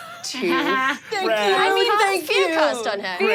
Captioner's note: group laughs